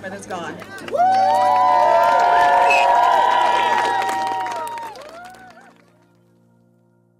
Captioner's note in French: cheering